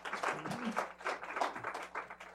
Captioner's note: applause